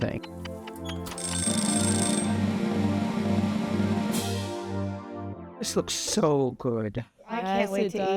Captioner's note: timer buzzes